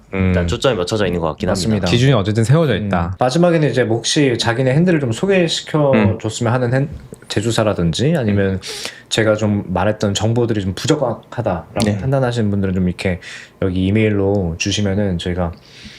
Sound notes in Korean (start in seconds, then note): 8.9 콧방귀